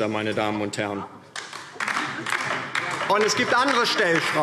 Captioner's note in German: Beifall DIE LINKE